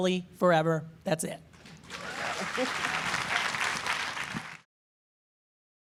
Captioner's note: applause